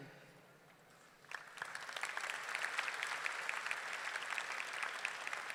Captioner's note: audience clapping